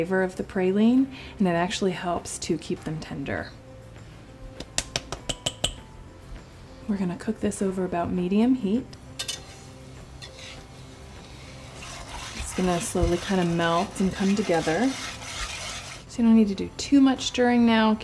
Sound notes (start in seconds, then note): 4.7 tapping; 10.0 scraping